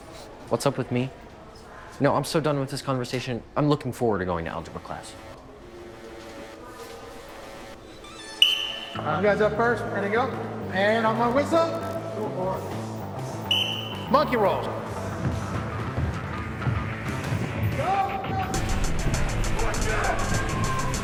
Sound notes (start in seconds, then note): 4.7 gentle electronic music; 8.1 whistle blows; 13.4 whistle blows; 15.8 students shout and thump; 15.8 upbeat electronic music